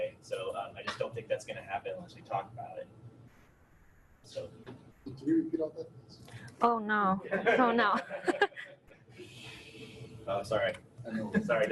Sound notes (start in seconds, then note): 7.2 laughs; 7.3 audience laughing